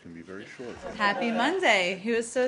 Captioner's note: laughter